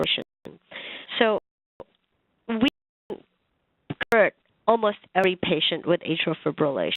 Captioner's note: audio skips